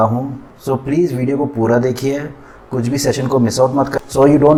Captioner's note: Hindi